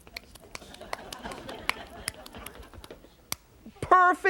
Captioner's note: laughter